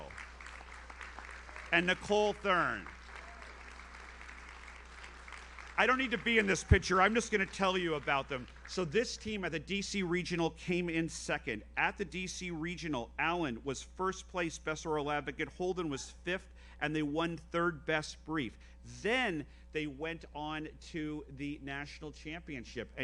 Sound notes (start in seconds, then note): 0.1 audience applauds; 3.1 audience member cheers; 4.6 audience applauds